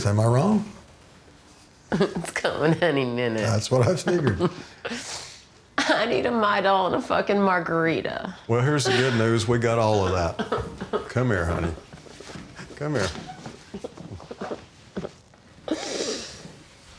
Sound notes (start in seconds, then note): 1.9 laughs; 5.0 Angela laughing; 6.1 sobs; 8.8 Angela sobbing; 9.2 Angela sighing; 14.1 Angela sobbing